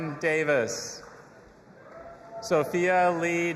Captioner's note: audience applauding and cheering